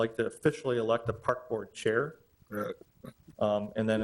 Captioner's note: chuckles